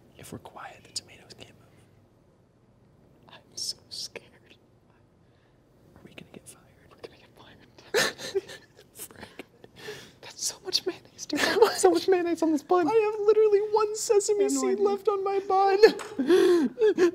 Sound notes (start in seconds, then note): 0.1 whispering; 7.9 laughs